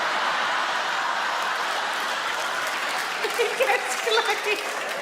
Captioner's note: audience laugh; Sarah laughs